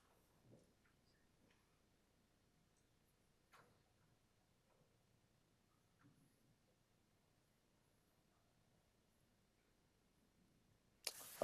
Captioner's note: silence